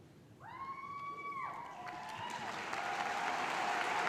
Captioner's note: cheering